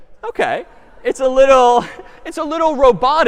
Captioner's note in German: lachen